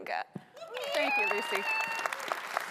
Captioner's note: audience applauding